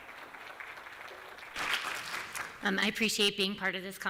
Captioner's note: applause